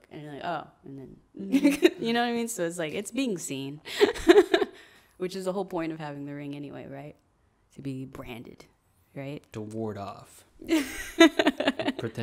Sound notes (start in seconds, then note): 1.1 laughs; 4.6 laughs; 10.6 laughing